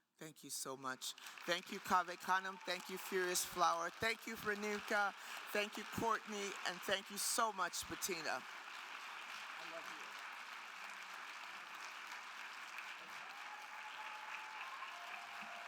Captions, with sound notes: Thank you so much. Thank you, Cave Canem. Thank you, Furious Flower. Thank you, Remica. Thank you, Courtney. And thank you so much, Bettina. (attendees applauding) I love you all. (attendees applauding and cheering)